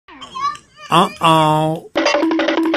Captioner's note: laughs